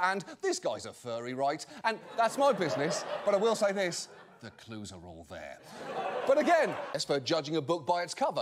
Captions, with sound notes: >> Along with, "This guy's a furry, right?" and- that's my business, but I will say this- (AUDIENCE LAUGHTER) the clues are all there. (AUDIENCE REACTS)